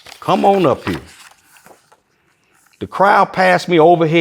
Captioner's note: pages rustling